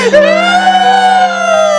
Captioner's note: sobs